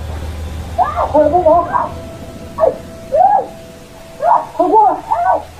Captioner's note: man speaking in foreign language